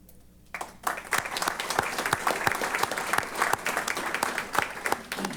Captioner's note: applause